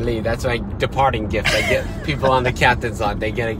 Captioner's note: laughter